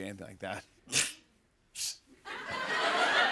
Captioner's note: scoffs; laughter